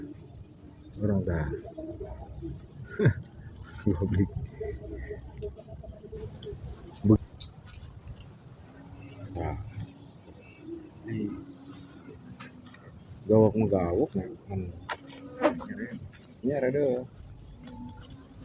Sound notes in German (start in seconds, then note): 2.5 lacht